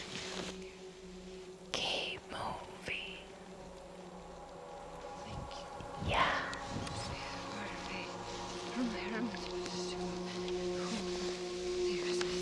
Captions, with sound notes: - [Ghostly Voice] Keep moving. - Thank you. - Yes. (Brigit muttering)